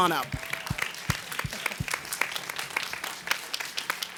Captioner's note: audience applauding